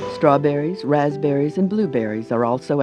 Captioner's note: voiceover